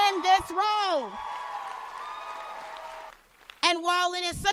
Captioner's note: cheers and applause